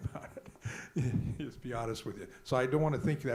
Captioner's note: laughs